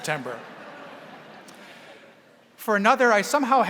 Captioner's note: audience laughing